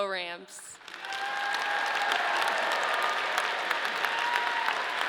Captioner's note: audience cheering